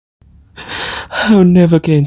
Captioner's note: sniffling